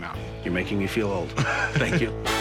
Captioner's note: laughs